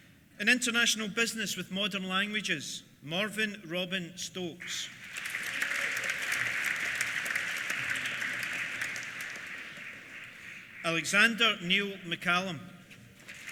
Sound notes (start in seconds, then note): 4.8 applause; 13.2 applause; 13.3 cheers